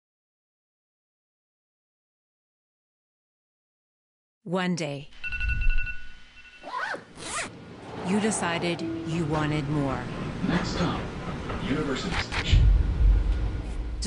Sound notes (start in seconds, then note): 5.1 alarm rings; 6.6 zipper hisses